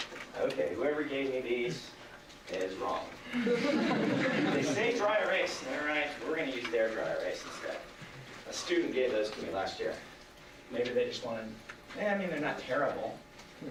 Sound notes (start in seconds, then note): 3.3 laughter